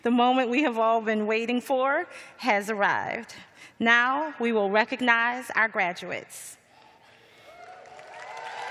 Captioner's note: cheers and applause